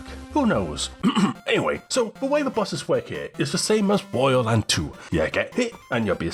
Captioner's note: ahem